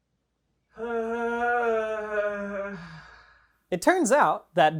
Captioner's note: pained moan